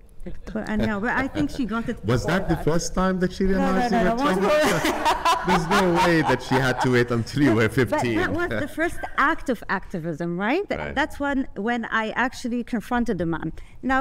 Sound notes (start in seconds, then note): 4.0 laughing